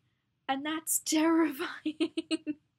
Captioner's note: laughs